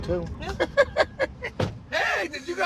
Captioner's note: laughs